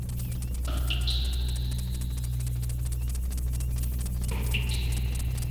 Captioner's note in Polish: Oscylujące metaliczne uderzenia